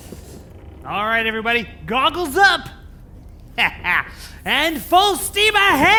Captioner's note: laughs